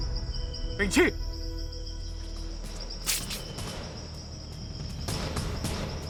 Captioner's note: monk speaking in foreign language; suspenseful music continues